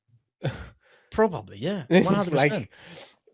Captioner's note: laughs